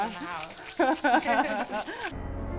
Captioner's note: laughter